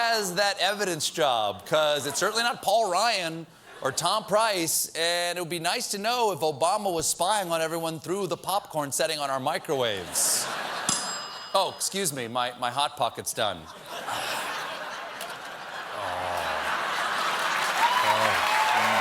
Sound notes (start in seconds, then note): 10.8 ding; 11.9 laughter